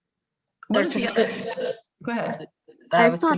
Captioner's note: microphone distortion